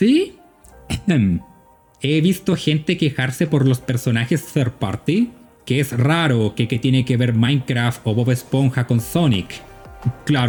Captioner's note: ahem